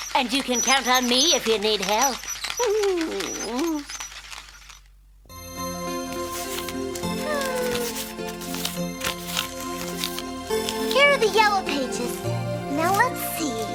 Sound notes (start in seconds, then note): 0.0 laughing; 7.1 sighing